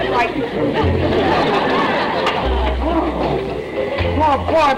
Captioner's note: audience laughter